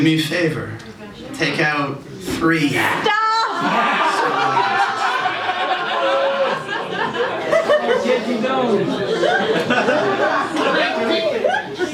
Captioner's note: laughter